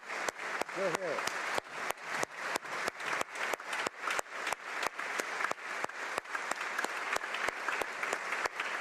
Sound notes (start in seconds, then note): 1.5 applause